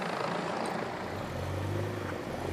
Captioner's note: clanking